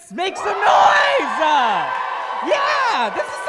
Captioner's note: crowd cheering